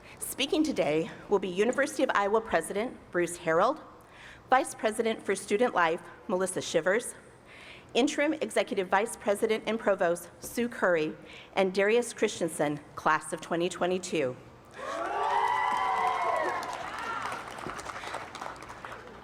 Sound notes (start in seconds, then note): 14.7 cheers and applause